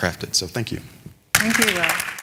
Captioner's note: applause